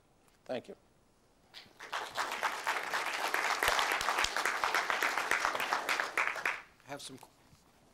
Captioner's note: applause